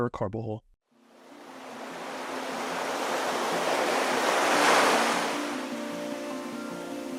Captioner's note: calming music; water rushing